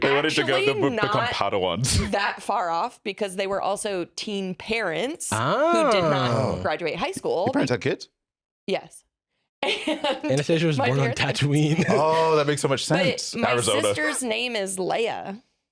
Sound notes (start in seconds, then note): 7.4 laughs